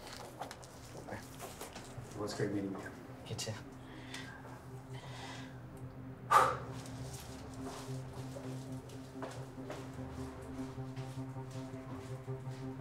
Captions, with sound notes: Hey, it was great meeting you. - You too. (Flavio sighs) (suspenseful music)